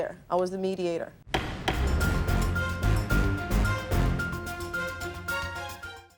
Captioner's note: dramatic music; gavel thumping